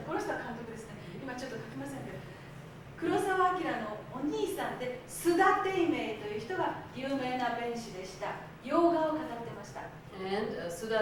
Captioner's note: speaking Japanes